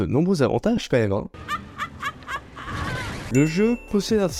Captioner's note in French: rire